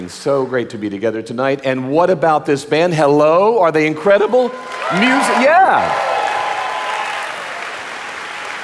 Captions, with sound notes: so great to be together tonight. And what about this band? Hello, are they incredible music? (audience applauding) Yeah.